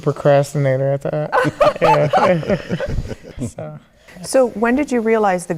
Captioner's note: laughing